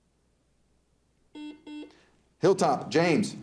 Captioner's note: buzzer dings